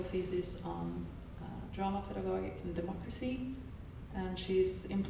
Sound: audio blurs

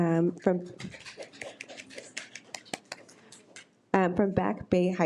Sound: audience applause

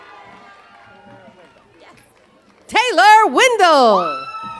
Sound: cheers and applause

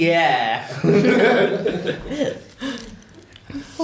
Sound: laughter

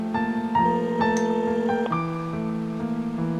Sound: phone rings

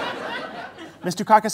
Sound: audience laughter

